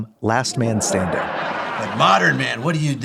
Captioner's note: audience laughing